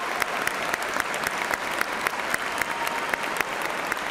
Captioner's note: cheers and applause